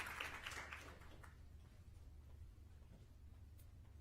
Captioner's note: applause